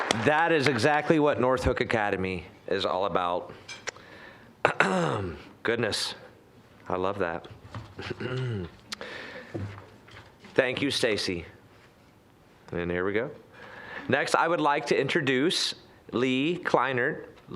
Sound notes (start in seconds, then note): 4.7 clearing throat